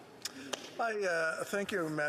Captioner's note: speaking French